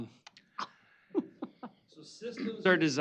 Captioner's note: laughing